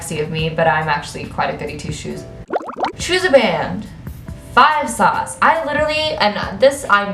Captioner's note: bubbles sound effect